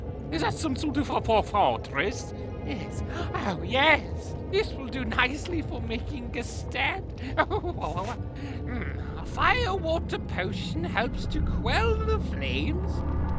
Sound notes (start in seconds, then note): 7.2 laughs